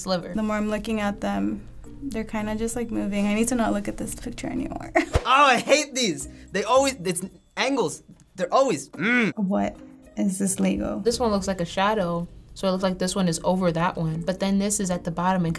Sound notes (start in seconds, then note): 6.3 stammering; 8.9 grumbling